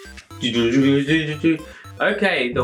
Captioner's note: imitating robot noises